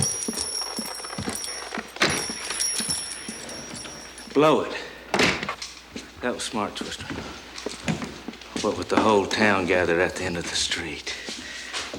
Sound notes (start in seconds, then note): 1.7 door opens; 5.2 door slams